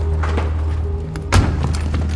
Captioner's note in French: Claquement de portière